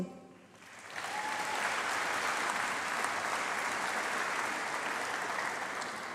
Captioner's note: applause